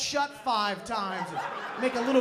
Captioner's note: laughter